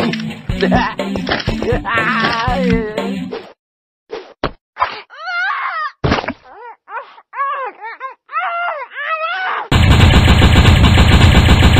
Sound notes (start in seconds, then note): 1.5 laughing; 4.9 yells; 6.0 muffled screams